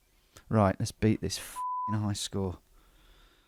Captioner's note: beep